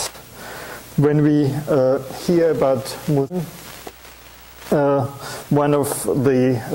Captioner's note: audio static